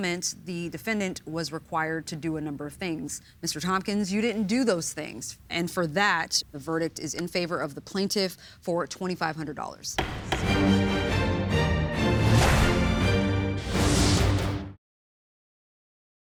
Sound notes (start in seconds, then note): 10.0 judge bangs the gavel; 10.0 rousing music